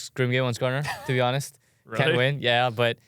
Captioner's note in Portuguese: risos